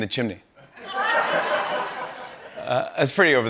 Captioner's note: laughter